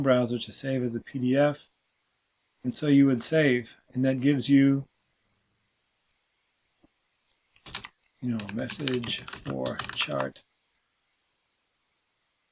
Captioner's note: typing